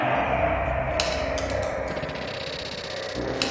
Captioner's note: rattling